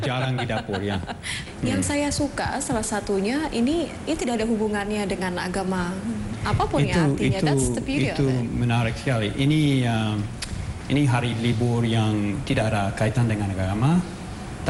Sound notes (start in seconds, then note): 0.0 laughing; 1.6 non-english speech; 9.6 non-english speech